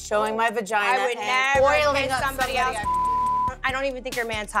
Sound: beep

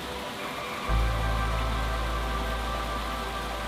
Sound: water rushing

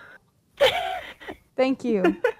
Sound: laughs; bar laughs

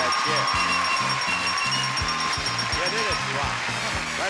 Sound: bell dinging repeatedly; excited music; audience clapping

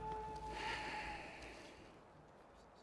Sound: sigh

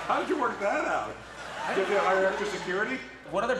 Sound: audience laughs

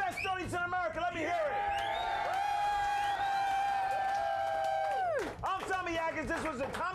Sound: audience cheering

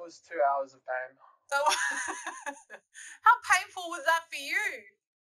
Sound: laughs to hide her pain

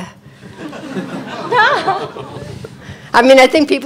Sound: all laughing

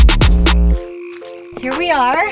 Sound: swamp sounds

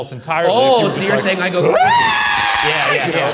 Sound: screams

